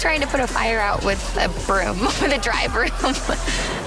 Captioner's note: laughing